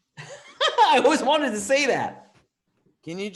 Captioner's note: chuckles